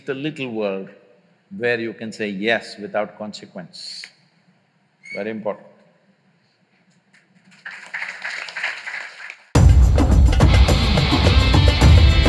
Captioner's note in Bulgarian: Ръкопляскания